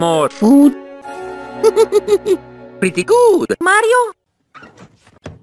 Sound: laughs

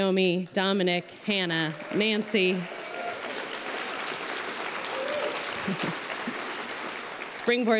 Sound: applause

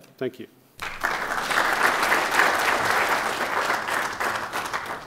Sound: applause

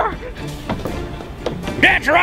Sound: loud footsteps

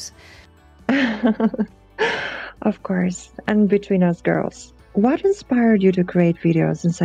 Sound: laughs

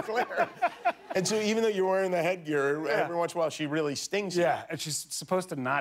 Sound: laughter

